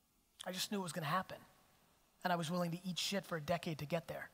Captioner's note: none